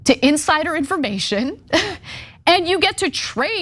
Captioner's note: laugh